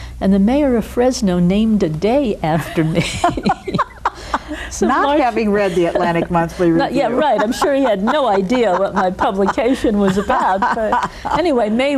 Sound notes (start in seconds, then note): 2.9 both laughing